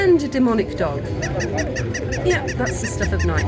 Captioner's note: yapping